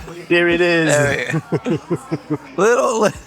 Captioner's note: laughs